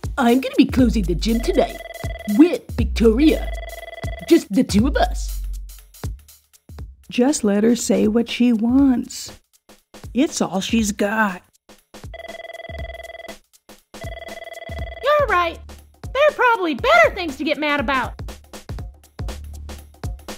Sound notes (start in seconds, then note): 11.7 phone ringing